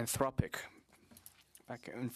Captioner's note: speaking French